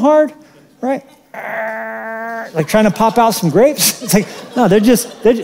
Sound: grunts

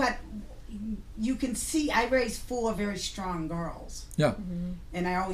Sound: voiceover

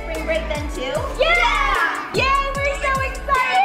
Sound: kids cheering

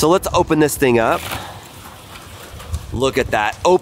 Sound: panel scraping

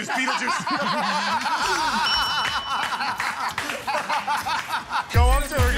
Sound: laughing

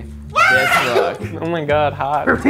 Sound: screaming and laughs

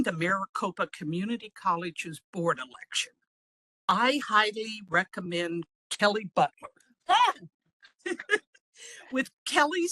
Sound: exclamation

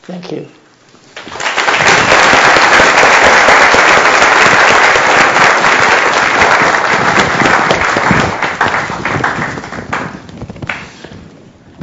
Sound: applause

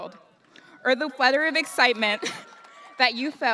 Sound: audience cheers; laughs

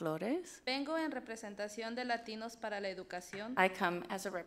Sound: speaks foreign language

